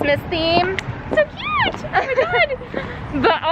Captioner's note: laughs